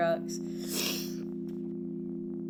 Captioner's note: sniffs